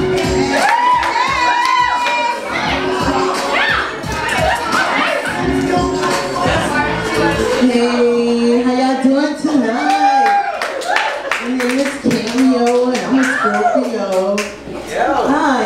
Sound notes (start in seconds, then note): 0.3 audience yells; 9.6 audience cheers